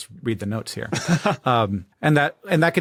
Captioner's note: chuckles